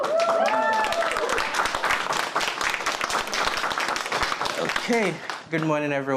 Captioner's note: cheering and applause